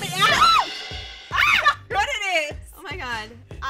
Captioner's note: screams